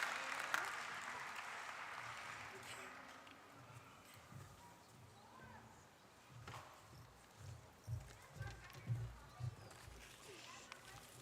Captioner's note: applause